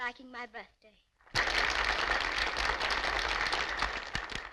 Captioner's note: applauding